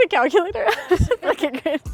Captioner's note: chuckles